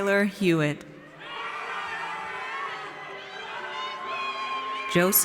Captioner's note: audience cheers